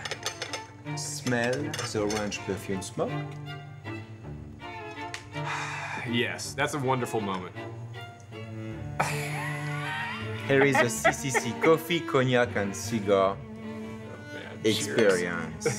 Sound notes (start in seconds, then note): 5.4 sighs; 9.0 laughs